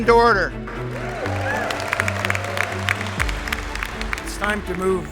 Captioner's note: applause